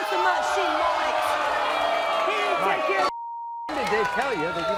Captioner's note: crowd boos